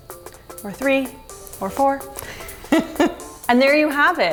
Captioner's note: laughs